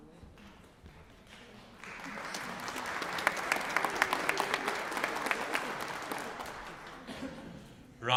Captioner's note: applause